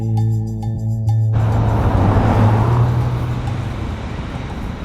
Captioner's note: waves crash